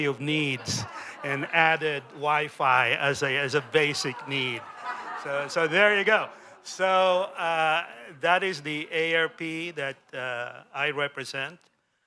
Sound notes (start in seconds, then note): 2.7 laughter